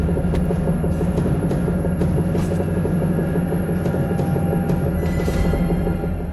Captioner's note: dramatic music; bodies scuffling